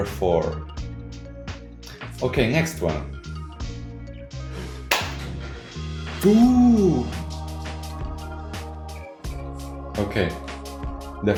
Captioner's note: happiness noises